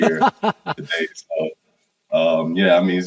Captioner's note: laughs